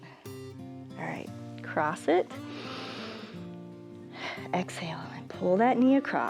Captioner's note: inhales